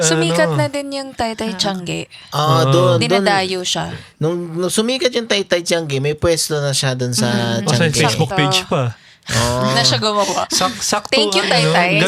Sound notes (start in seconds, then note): 0.9 speaking in foreign language